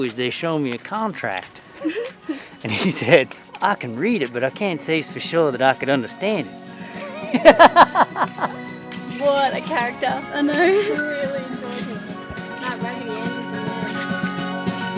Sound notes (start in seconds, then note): 6.8 laughing